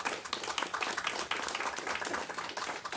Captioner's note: applause